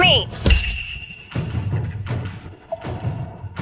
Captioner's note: phone vibrates